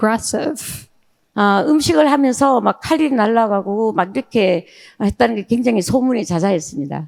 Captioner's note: speaking in foreign language